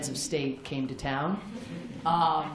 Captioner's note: laughter